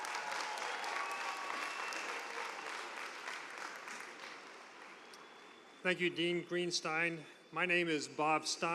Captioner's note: cheers and applause